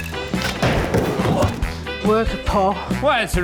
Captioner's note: pop!; thud!